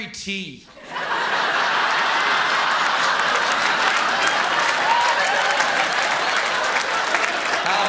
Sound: laughter

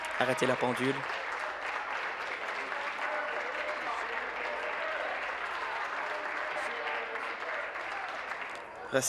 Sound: applause

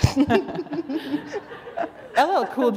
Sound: laughter

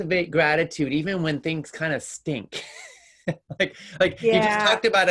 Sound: chuckles

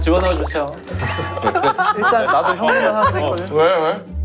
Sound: bursts out into laughter

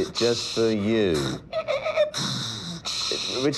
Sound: scratching noise

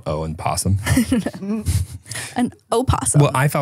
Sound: chuckles

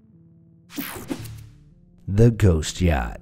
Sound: slide swooshing

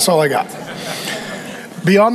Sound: congregation laughing

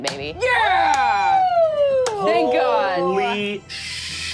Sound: audience cheers

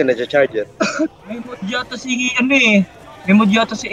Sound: cough

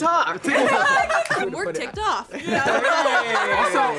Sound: laughs

